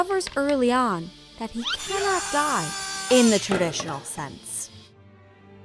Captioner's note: wood cutting